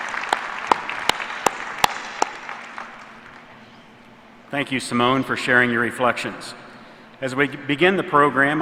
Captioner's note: applause